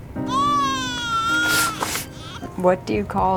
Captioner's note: baby crying